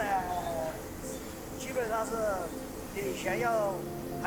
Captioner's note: speaking Chinese